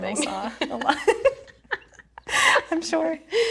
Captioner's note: both laughing